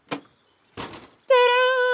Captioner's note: hatch clatters